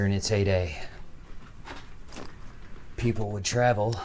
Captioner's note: footsteps shuffling; gear rattling